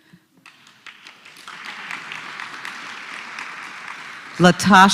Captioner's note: applause